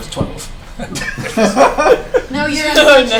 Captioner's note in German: Gelächter